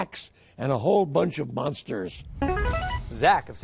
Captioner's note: player buzzer